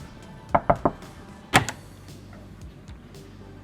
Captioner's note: knocking